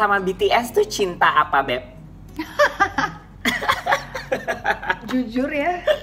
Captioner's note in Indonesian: Both laughing